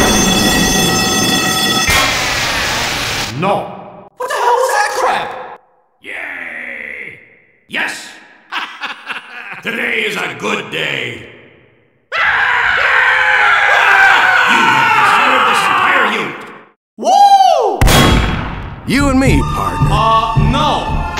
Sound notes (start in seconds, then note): 5.9 sounds of enthusiastic soldiers; 12.1 screaming